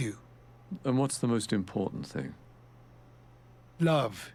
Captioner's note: voiceover